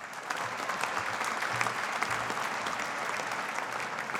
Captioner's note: audience applauding